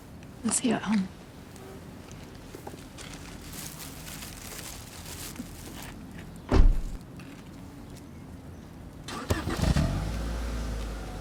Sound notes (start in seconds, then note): 6.5 car door shuts; 9.0 car starts